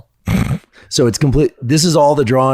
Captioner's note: Andrew scoffs